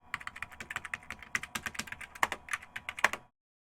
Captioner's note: keyboard clicking